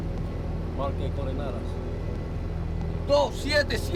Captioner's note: speaking Spanish